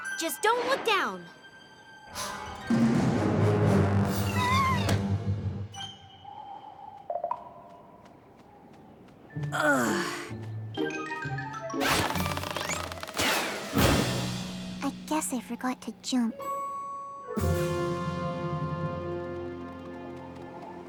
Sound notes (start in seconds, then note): 6.3 wind howling; 9.5 groans; 11.9 creak!; 13.7 crash!